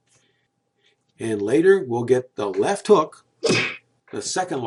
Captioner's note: punching sound